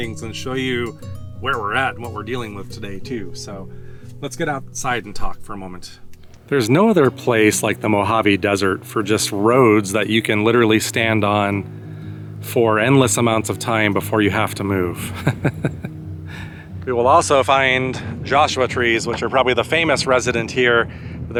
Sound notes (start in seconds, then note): 14.9 laughs